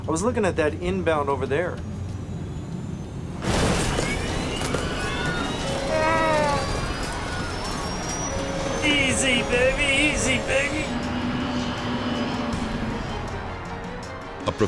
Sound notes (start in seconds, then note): 3.6 passengers screaming; 5.0 plane rattles; 11.0 plane whirring; 13.4 tense music